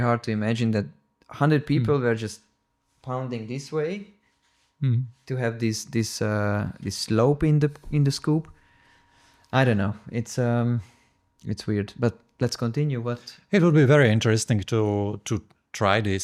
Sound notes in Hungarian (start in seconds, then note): none